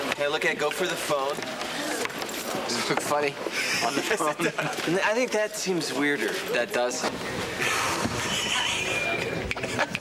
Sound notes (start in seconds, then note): 7.5 keaton sighs; 8.0 burton chuckles